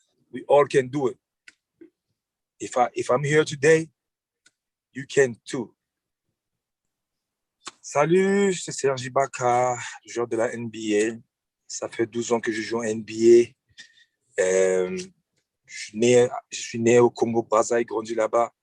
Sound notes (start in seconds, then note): 7.8 speaking french